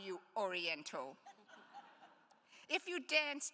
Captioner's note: attendees laughs